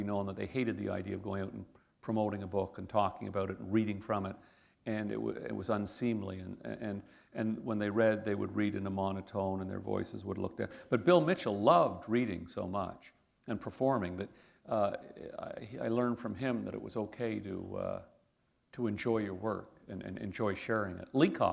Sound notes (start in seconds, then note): none